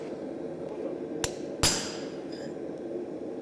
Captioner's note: banging on metal